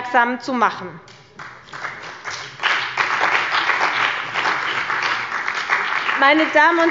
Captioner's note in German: Beifall bei der CDU und dem BÜNDNIS 90/DIE GRÜNEN